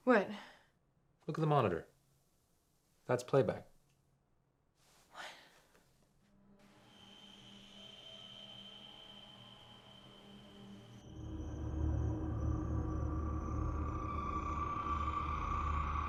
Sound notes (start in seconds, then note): 6.5 ominous music; 11.3 insects chirping; 11.3 ominous music